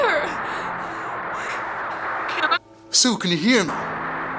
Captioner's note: static buzzing